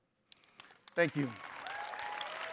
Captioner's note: audience applauds